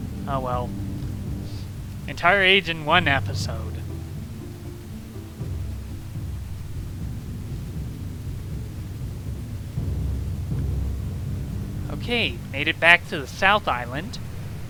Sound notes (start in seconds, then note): none